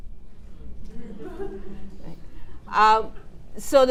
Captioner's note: attendees laughing